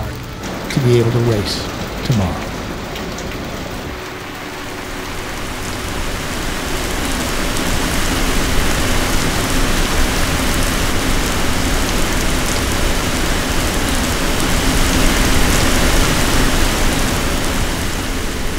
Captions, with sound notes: to be able to race tomorrow. (rain splattering)